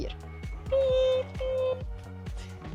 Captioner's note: beep. Beep